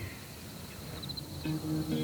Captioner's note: bird cry